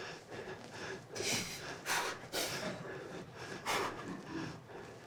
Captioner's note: Shylock panting